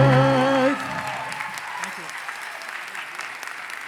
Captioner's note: cheers and applause